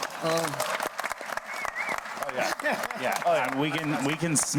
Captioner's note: audience clapping